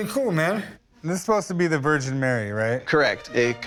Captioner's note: none